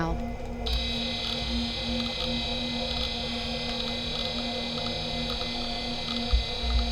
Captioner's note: soft intriguing music; machines whirring